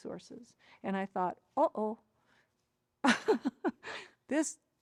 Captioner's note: laughs